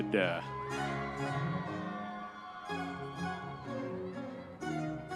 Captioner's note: audience members cheering